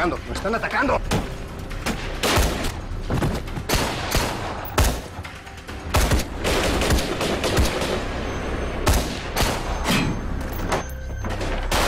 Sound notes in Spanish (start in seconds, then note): 5.3 Disparos